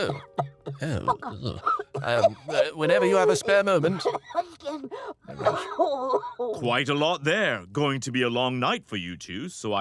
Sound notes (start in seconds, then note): 3.8 Mrs. Hud continues hacking